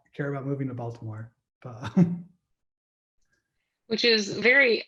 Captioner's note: laughing